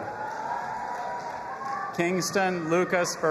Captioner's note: audience applauding and cheering